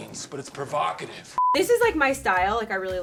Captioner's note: beep